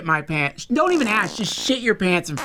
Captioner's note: fart